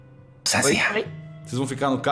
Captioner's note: whispering